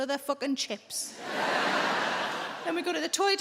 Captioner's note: crowd laughs